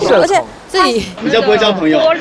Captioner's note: laughs